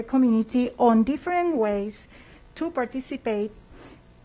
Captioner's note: speaking spanish